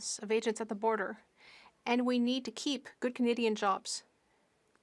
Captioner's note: speaking French